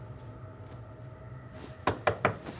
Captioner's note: knocks at door